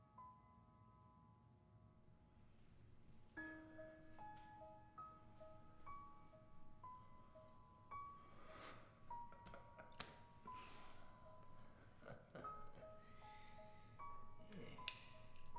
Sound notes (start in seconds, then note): 8.8 laughs; 12.0 chuckles